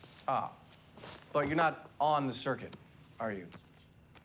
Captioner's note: none